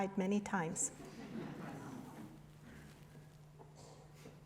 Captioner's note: laughter